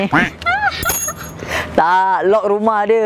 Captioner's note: laughing